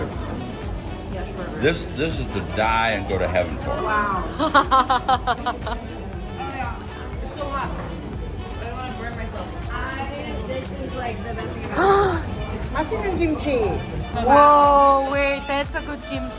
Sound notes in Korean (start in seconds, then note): 4.2 ㅋㅋ